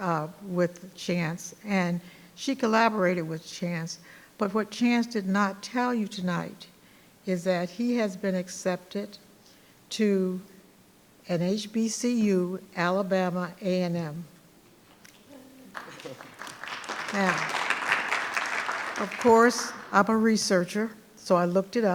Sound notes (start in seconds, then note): 15.7 audience applauding